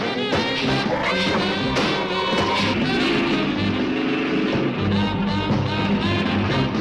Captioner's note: suspenseful music; ground rumbling